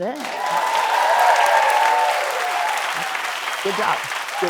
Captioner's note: cheers and applause